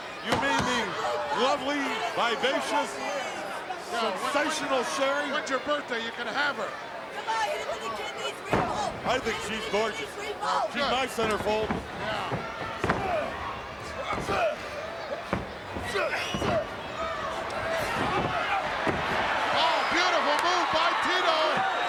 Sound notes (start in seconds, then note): 12.8 crowd yelling